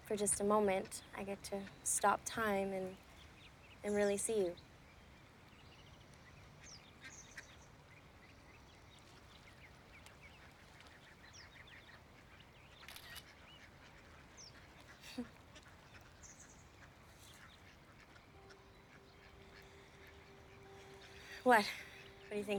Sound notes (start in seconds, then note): 11.0 shutter snaps; 13.2 chuckles